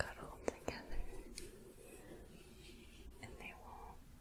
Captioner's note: gentle shuffling